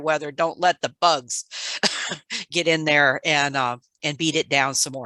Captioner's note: laughs